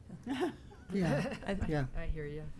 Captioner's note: laughing